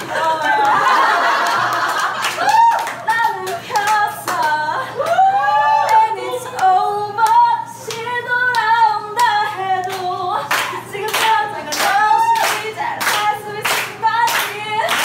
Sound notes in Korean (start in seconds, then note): 0.0 아하하하핳핳하